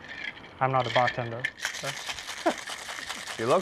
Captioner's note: chuckles